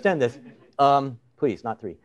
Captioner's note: laughter